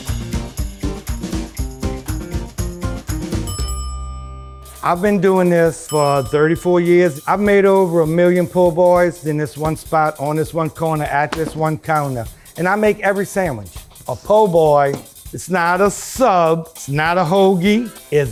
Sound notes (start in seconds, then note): 0.0 lively music; 3.4 bell dings